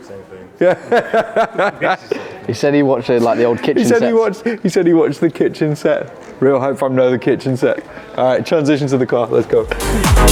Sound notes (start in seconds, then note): 0.6 laughing